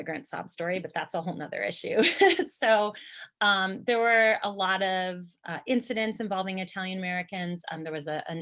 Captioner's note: chuckle